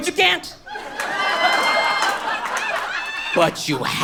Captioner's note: audience laughs